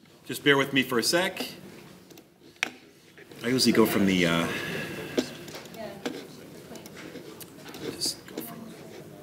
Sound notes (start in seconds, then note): 5.1 panel chattering